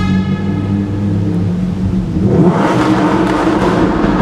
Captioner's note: engine roaring